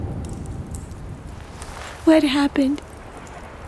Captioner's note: fire crackles